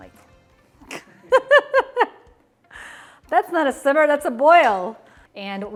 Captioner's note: laughs